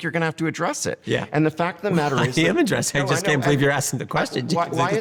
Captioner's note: laughs